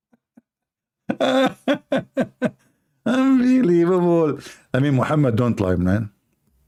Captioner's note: Ketawa